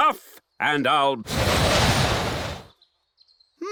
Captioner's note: blows